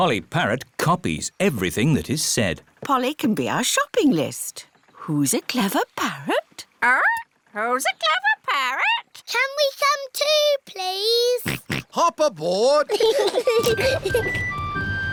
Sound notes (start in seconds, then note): 11.5 snorts; 12.8 peppa and george giggling